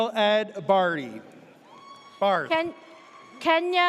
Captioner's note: audience cheers